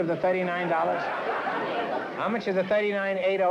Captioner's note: laughter